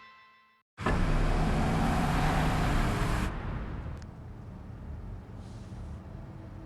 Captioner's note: SFX: Engine sound